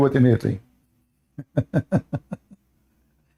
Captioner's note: Ketawa